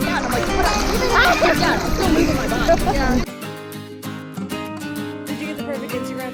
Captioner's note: laughing